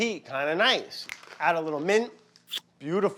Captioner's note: fingers snapping; lips licking